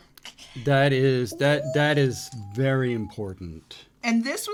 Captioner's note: squeals